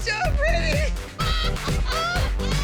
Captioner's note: laughter